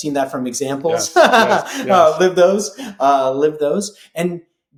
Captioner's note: laughing